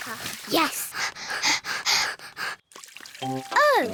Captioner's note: both panting